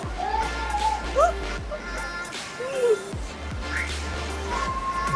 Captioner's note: high energy electronic music; laughs; high energy electronic music